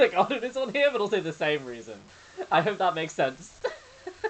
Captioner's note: laughs